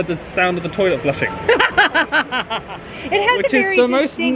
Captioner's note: laughing